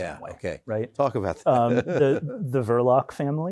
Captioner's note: chuckles